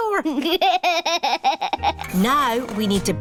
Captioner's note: chuckles